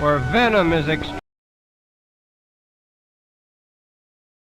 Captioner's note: audio missing